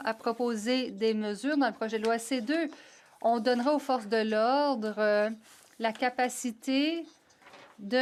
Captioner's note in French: voix de l'interprète